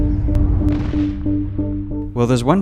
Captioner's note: bomb explodes; slow dramatic music